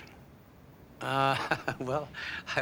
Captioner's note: laughing